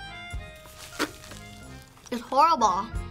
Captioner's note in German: spuckt